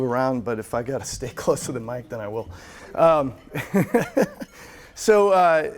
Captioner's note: laughs